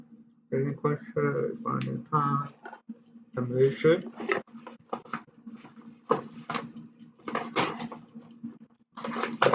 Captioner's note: cutting off envelope